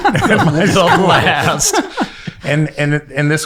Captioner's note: laughing